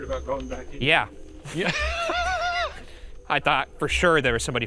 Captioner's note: both laughing